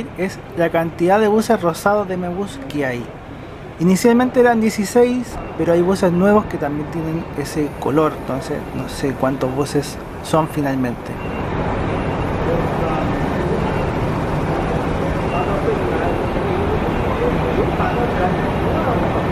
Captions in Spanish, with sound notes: es la cantidad de buses rosados de 'Eme Bus' que hay inicialmente eran 16, pero hay buses nuevos que también tienen ese color entonces, no sé cuántos buses son finalmente (sonido ambiente del bus 'Eme Bus 196')